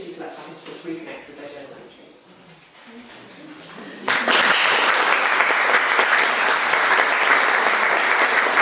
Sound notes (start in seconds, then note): 2.5 audience chattering and applauding